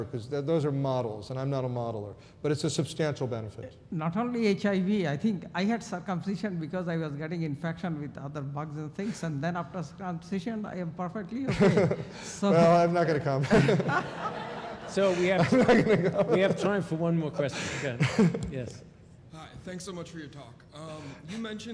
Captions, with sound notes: THOSE ARE MODELS AND I'M NOT A MODELER BUT IT'S A SUBSTANTIAL BENEFIT. >> NOT ONLY HIV, I HAVE CIRCUMCISION BECAUSE I WAS GETTING INFECTION AFTER OTHER BUGS AND THINGS AND NOW I HAVE PERFECT -- >> I'M NOT GOING TO COMMENT ON THAT. [ LAUGHTER ] >> WE HAVE TIME FOR ONE MORE QUESTION. >> THANK YOU VERY MUCH FOR YOUR